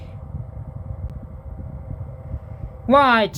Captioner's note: fan noise